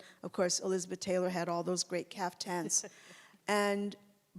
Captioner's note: chuckles